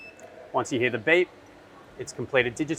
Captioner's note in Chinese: 机器发出哔哔声